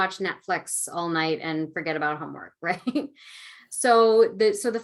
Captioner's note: laughing